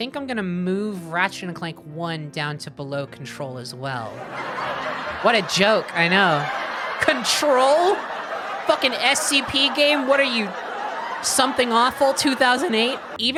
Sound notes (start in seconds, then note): 4.2 laughter continues; 4.2 sitcom laughter